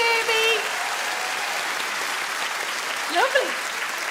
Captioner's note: audience clap